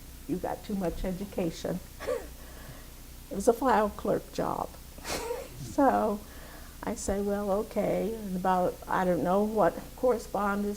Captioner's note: laughs